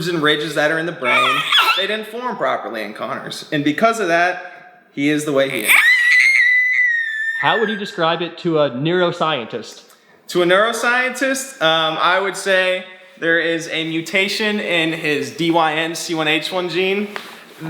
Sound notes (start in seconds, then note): 1.0 squealing; 1.0 laughing; 5.7 yelling